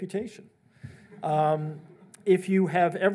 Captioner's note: audience laughs